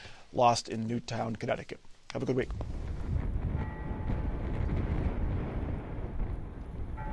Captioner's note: bells tolling